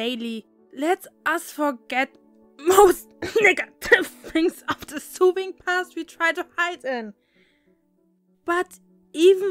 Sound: cough

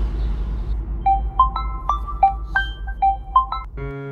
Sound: mobile phone ringing

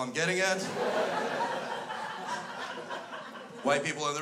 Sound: crowd laughs

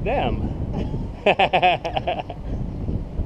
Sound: laughing

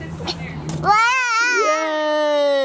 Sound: cheers

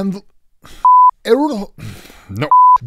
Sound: test pattern beeps

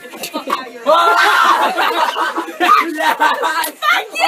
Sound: yelling and laughing

